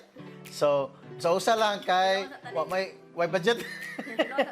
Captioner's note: giggles